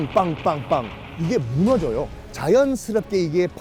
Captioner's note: collapsing building